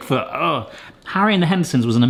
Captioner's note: grunts